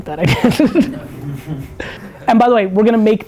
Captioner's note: laughs